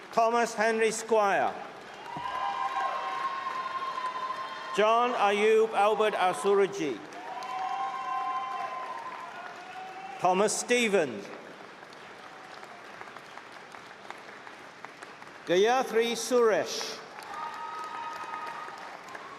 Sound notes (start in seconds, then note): 3.4 cheering; 9.4 applause